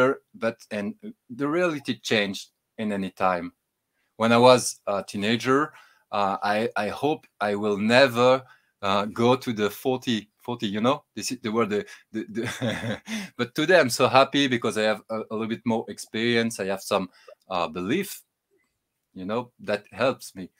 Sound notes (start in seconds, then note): 12.2 laughs